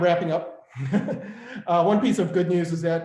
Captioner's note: laughs